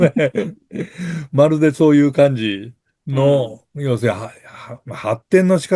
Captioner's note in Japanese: 笑い